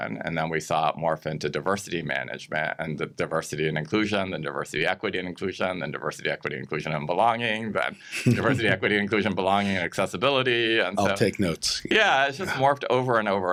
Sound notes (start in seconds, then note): 7.9 chuckles